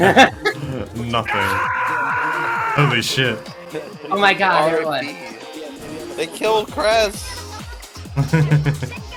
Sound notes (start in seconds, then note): 0.0 chuckle; 1.3 Werehog Sonic's Death Scream